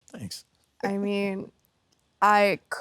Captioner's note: Ethan laughs